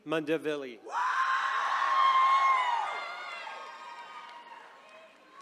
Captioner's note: attendees cheering